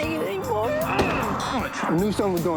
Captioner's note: grunts